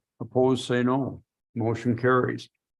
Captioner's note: silence